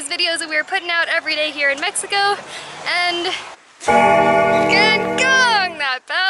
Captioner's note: bell Rings